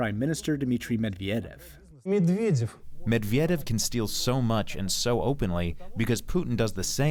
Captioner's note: through translator